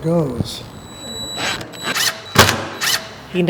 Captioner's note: electronic tool drills